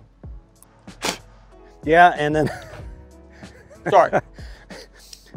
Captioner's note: spitting; laughs